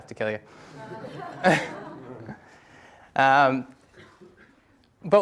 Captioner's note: audience laughs